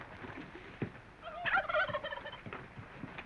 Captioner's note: turkey gobbling